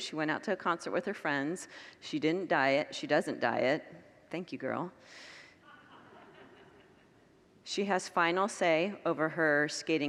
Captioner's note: congregants laugh